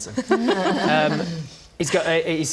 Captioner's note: polite laugh